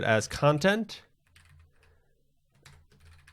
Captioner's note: keyboard clacking